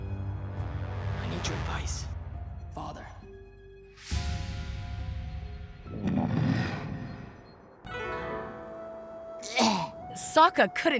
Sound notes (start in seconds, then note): 5.8 Appa grunting